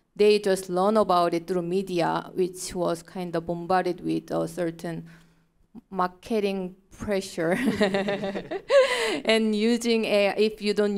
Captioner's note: laughing